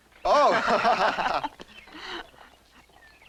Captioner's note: laughing